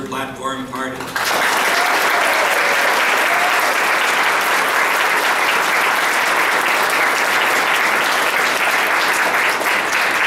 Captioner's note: applause